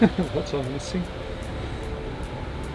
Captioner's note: chuckles